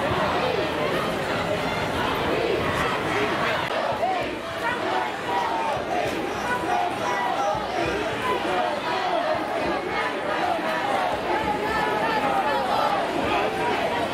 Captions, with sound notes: No peace! No justice! No peace! [crowd chanting] [crowd noises]